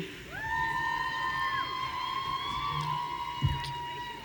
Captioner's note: audience cheering